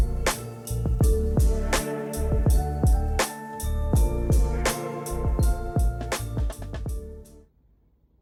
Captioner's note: buddhist bell